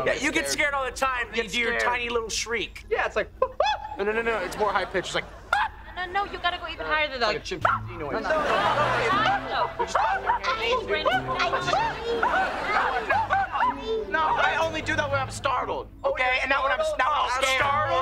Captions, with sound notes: You get scared all the time and do your tiny little shriek. Yeah, it's like... oh-ah! No, no, no. It's more high pitched, like... ah! No, you've got to go even higher than that. [arguing] [shrieking] I only do that when I’m startled, okay, and not when I'm scared.